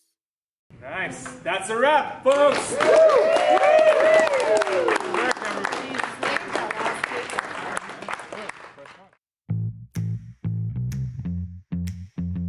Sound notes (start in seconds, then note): 7.3 cheers